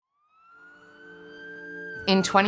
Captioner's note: sirens